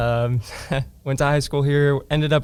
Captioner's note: laughs